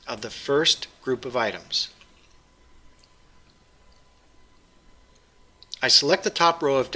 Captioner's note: pause